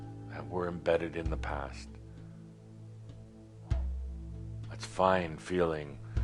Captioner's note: none